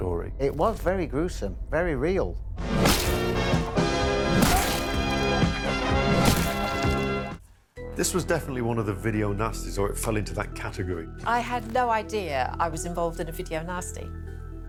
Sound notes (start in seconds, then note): 2.7 upbeat music; 4.2 blood squelching